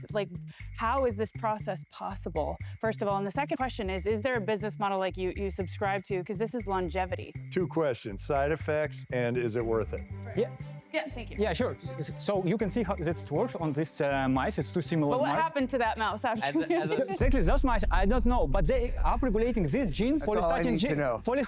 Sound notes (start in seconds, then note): 16.3 laughter